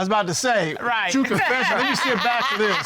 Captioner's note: laughs